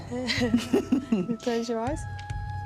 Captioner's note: laughter